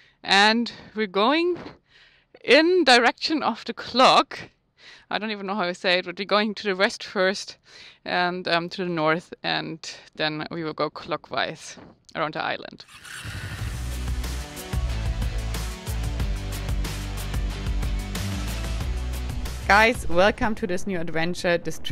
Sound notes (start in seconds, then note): 12.9 bike revving; 13.5 lively music